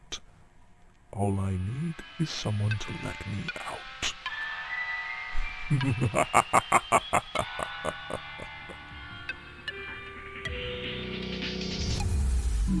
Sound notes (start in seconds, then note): 8.3 Lord X laughs